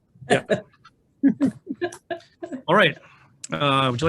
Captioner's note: laughing